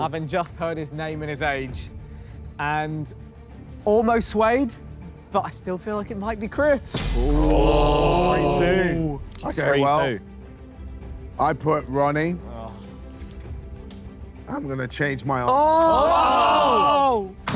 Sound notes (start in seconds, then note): 7.2 Sidemen groan; 15.5 Sidemen cheer